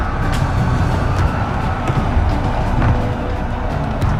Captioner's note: intense music; soldiers roaring